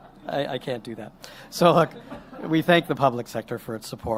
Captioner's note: laughter